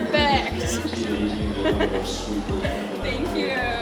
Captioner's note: laughs